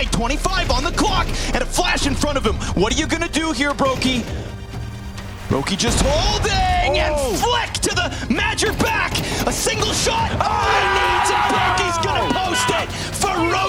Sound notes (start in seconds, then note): 9.8 players cheering